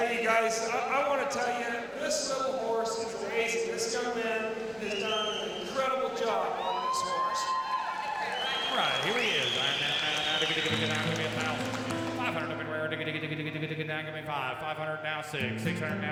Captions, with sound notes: - HEY, GUYS, I WANT TO TELL YA, THIS LITTLE HORSE IS AMAZING. THIS YOUNG MAN HAS DONE AN INCREDIBLE JOB ON THIS HORSE. [cheers and applause] - ALL RIGHT, HERE HE IS RIGHT NOW. [auctioneer chanting] 500. GIVE ME 5. 500. NOW 6.